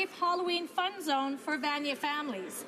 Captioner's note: speaking French